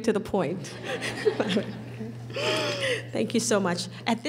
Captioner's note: laughing